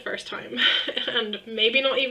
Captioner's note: laughs